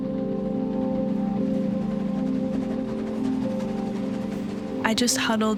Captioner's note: train engine chugging, rattling